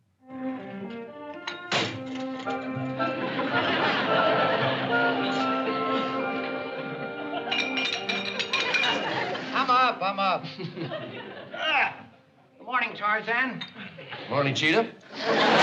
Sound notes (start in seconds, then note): 7.5 metal clinking; 10.4 laughs